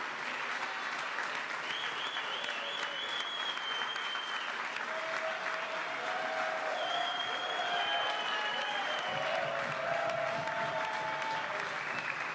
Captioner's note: applause